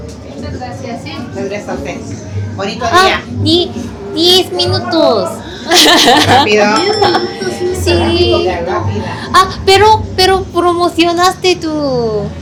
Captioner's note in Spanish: risas